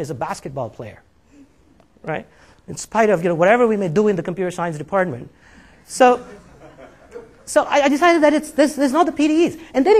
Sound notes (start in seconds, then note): 6.1 laughing